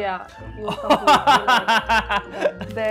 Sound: laughing

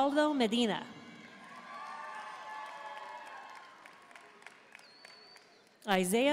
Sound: audience cheering and applauding

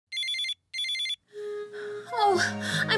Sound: phone ringing

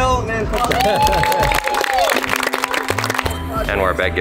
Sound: drowned by applauding

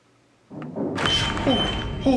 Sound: distant knock

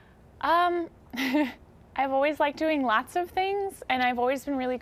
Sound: laughs

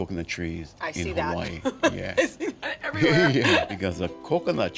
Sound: giggling

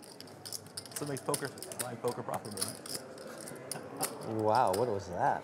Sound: rattling poker chips

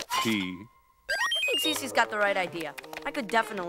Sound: beeping

